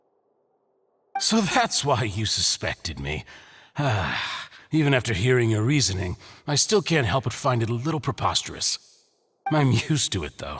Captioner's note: sigh